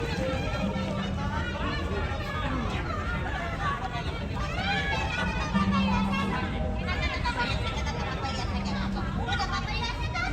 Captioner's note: foreign talking